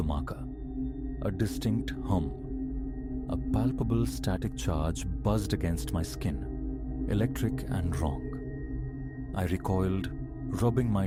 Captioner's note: hum